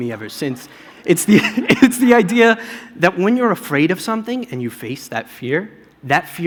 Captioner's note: laughter